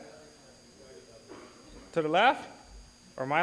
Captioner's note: audience chatter